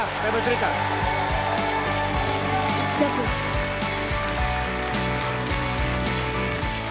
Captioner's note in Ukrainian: оплески